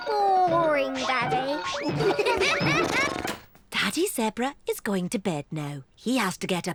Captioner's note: all giggle